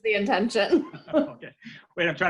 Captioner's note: both laugh